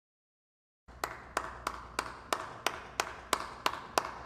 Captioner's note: clapping